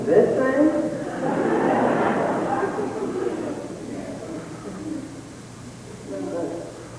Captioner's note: laughter